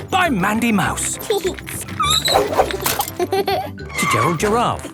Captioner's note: laughing; giggling and squeaking; laughter